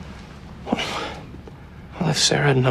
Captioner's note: sighs